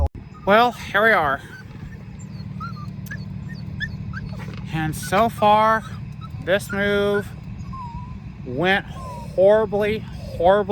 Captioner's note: Ella whimpers